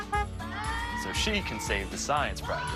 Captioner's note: honk, honk